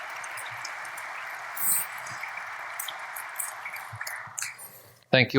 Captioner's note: audience applauding